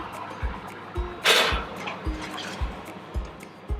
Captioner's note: tray clanking